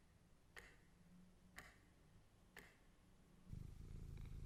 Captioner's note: clock ticking